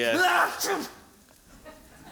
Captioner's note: sneeze